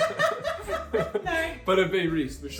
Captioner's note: laughing; both laughing